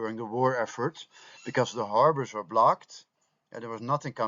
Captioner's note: German